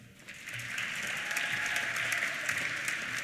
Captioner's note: applause; cheers